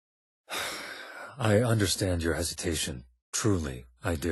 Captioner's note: sigh